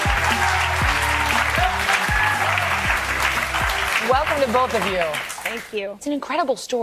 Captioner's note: applause